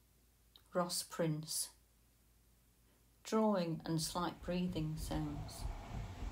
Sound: drawing and slight breathing sounds

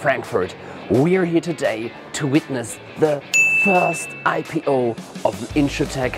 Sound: bell ringing

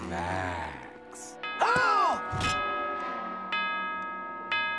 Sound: gasping; bell ringing

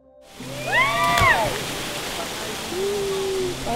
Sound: splash

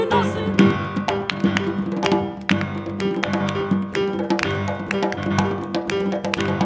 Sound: lively music; singers Clapping

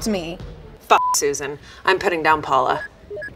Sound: beep

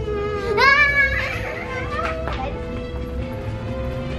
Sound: whimpers; screams; adventurous music

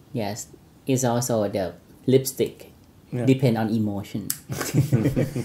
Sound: laughs

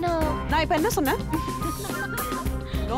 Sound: giggling

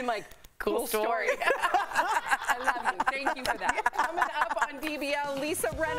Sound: laughter

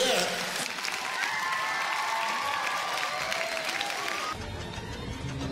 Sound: audience applauds and cheers; suspenseful music

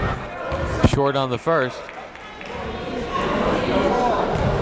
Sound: applauding

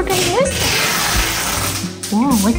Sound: taping sound

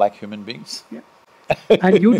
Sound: Sadhguru laughs

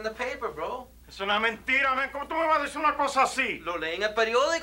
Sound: speaking spanish

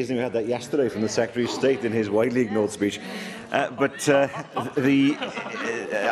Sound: laughter

